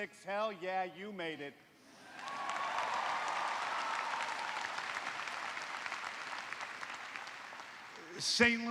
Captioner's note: cheers and applause